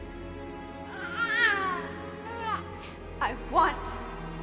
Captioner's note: baby cries